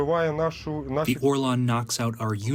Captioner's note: through translator